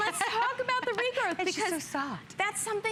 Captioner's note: laughter; laughter